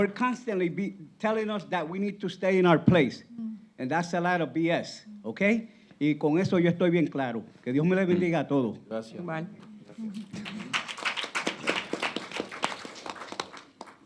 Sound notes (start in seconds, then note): 6.5 speaking Spanish; 10.2 applauding